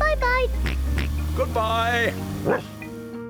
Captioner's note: oinks; barks